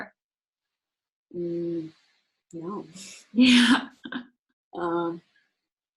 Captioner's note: laughs